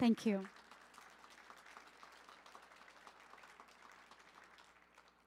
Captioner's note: audience applauding